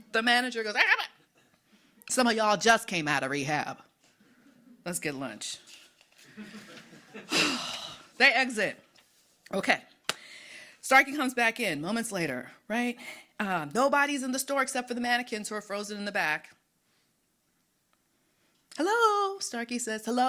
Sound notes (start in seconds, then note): 7.2 sighs